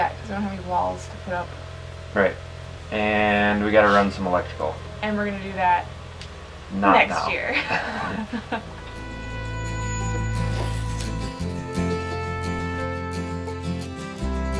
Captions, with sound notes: because we don't have any walls to put up. - Right. And we gotta run some electrical. - And we're going to do that next year. (laughs) - Not now. (laughs) (light music)